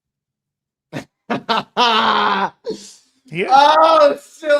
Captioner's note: Drake laughing